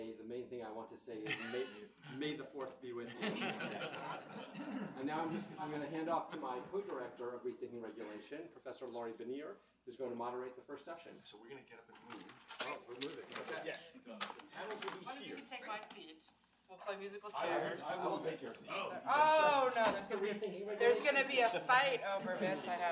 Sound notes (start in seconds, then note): 3.0 audience laughs